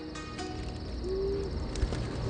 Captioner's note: owl hoots